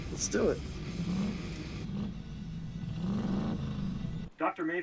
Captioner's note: loud engine acceleration